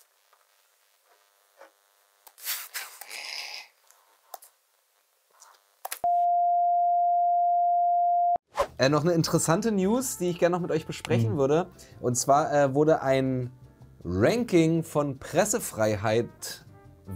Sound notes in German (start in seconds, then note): 6.0 Beeeeeepppp